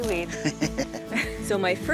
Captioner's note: chuckles